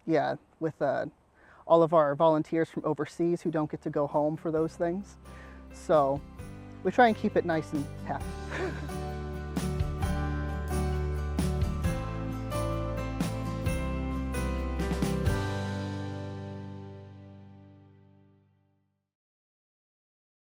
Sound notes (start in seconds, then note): 13.1 laughs